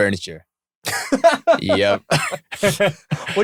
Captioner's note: laughing; laughter